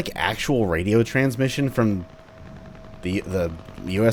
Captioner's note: helicopter/machinegun sounds